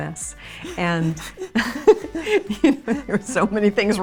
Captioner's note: all laughing